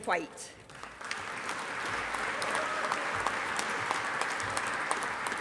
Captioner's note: audience applauding